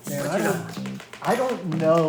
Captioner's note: speaking foreign language